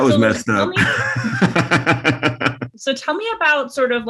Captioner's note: laughs